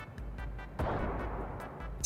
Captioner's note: shot